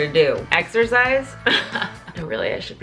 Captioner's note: laughs